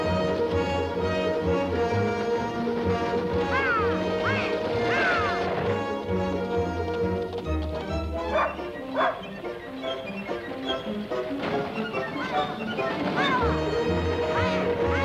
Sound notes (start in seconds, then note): 8.8 dog barking; 9.4 melodious music